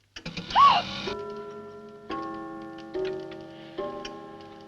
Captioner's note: clock chimes